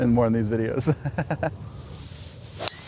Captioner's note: laughs